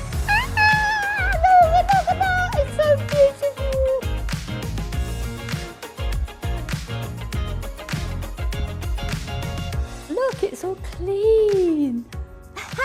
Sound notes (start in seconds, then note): 1.3 squeals